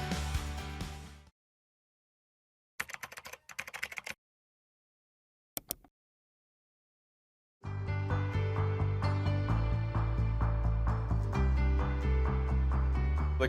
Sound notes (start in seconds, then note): 0.0 bright music; 2.8 keyboard typing; 7.7 bright music